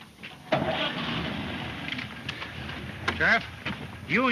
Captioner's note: engine puttering